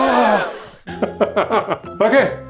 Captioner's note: crowd gasps; laughs